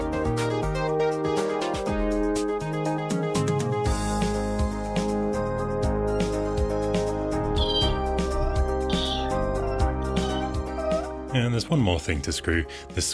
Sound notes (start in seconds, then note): 7.5 squeaking